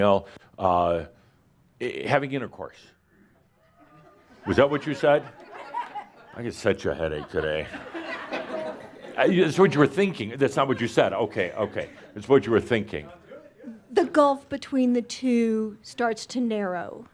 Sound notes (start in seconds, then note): 6.7 laughter; 7.1 more laughter